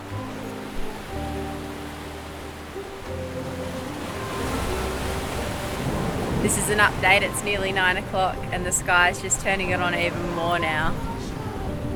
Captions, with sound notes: (gentle music) (waves crashing) - This is an update it's nearly 9 o'clock and the sky is just turning it on even more now.